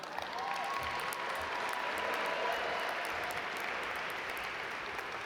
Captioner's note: audience applaud